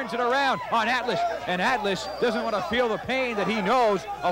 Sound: crowd shouting

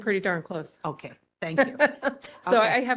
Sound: laughing

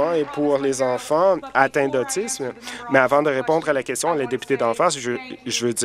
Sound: applause

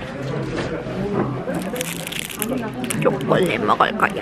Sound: crumpling

